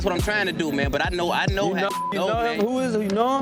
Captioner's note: beep